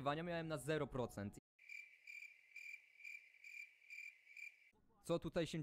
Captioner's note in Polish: Świerszcze